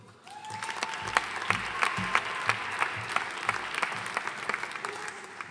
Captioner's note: audience cheering and applauding